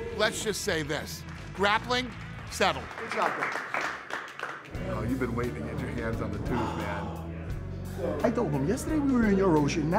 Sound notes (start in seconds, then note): 3.9 light applause; 6.5 sighs